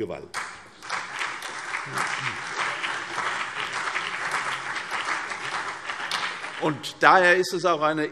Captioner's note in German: Beifall CDU und BÜNDNIS 90/DIE GRÜNEN